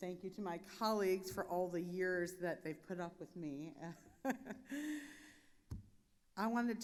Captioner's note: chuckles